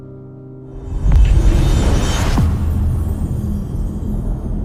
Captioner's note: dramatic sound